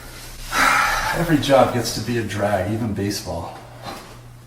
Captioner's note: sighs